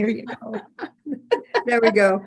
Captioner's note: both chuckling